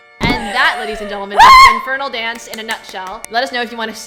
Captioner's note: hyped scream